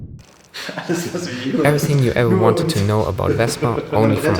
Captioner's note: laughs